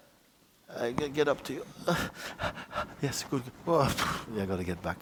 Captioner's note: panting